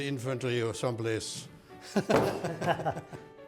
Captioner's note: both laugh